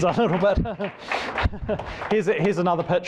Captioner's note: applause